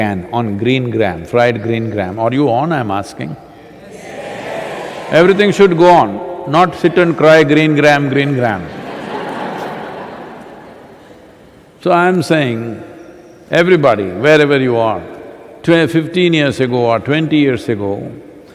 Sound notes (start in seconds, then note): 8.6 laughter